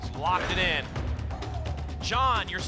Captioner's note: lock sound